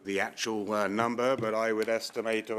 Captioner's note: speaking French